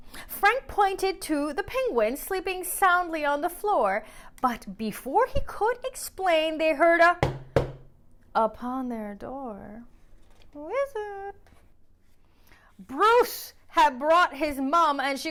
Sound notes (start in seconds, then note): 7.2 knock knock